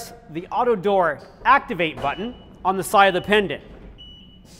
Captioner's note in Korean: 오토도어 작동